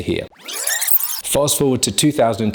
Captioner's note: film tape whines